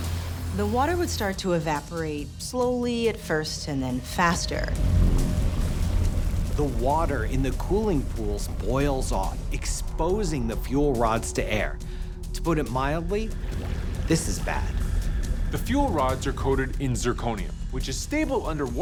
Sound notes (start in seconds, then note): 4.5 water bubbling